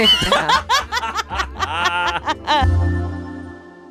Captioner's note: all laugh